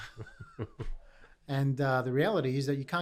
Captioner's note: laughing